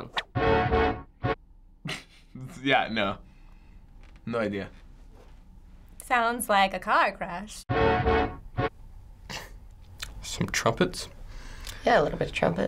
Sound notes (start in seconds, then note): 0.2 brassy beat; 1.8 snickering; 7.7 brassy beat